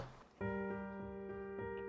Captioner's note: none